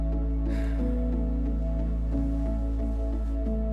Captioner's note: gentle wistful music; Jack sighs